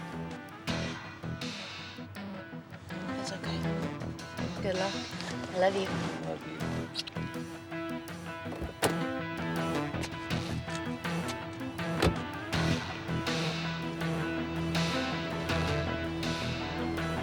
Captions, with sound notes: (thrilling music) It's okay. Good luck, I love you. - I love you. (lips smacking) (thrilling music)